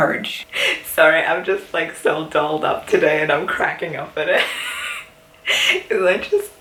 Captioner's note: wheezing